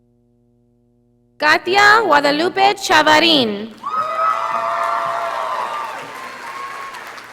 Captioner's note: audience applauding